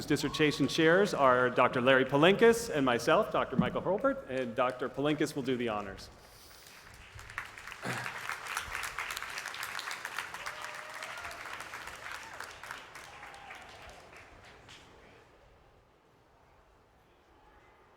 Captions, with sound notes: MICHAEL HURLBURT. [CHEERS AND APPLAUSE] AND NEXT I WOULD LIKE TO INVITE TO THE STAGE DR.